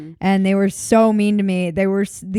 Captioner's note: none